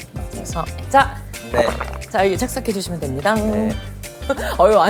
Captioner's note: gulp